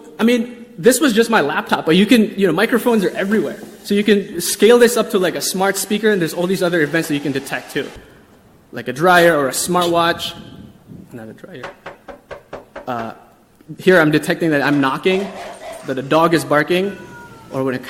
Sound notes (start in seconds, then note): 11.6 door knocking; 15.8 dog barking; 16.7 cat meowing